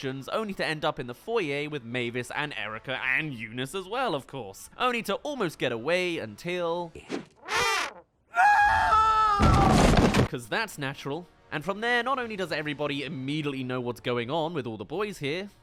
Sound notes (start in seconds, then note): 8.3 Butt* *Screams